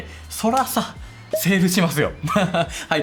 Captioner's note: laughs